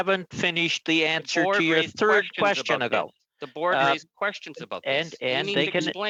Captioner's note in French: voix de l'interprète